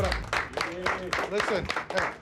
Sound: team clapping

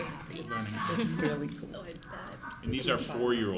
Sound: laughter

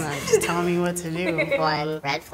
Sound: laughs

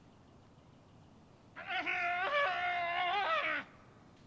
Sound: loud wailing

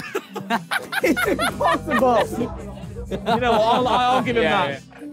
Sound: laughing

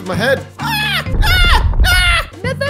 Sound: yells

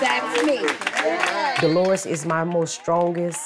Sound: participants clapping

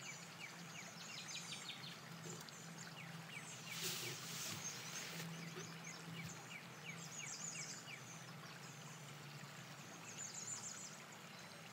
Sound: birdsong

